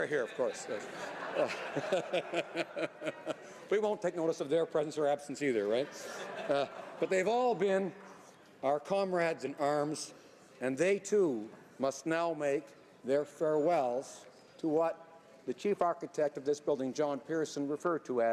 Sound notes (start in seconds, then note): 5.6 laughter